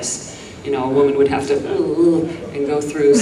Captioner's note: groans